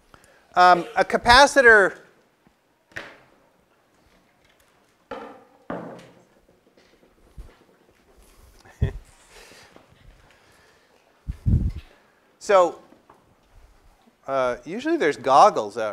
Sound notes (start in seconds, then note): 0.7 cough; 3.5 laugh